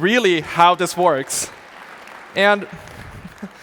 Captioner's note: audience applauding